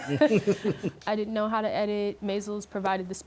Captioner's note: laughter